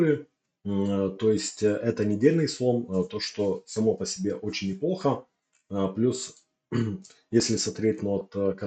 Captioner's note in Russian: откашливается